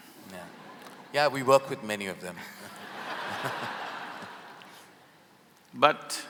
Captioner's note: laughter; laughter